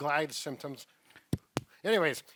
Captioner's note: microphone tapping